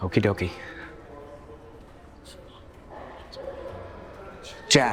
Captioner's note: students chattering